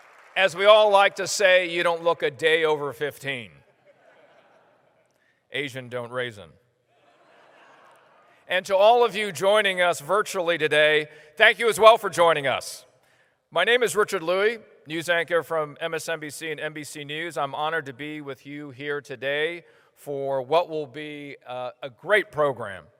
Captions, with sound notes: As we all like to say, you don't look a day over 15. [laughter] Asian don't raisin. [laughter] And to all of you joining us virtually today, thank you as well for joining us. My name is Richard Lui, news anchor from MSNBC and NBC news. I'm honored to be with you here today for what will be a great program.